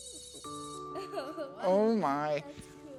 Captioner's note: laughing